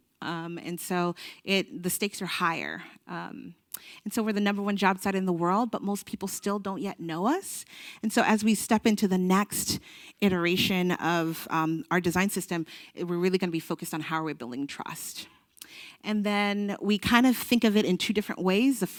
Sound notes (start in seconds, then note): none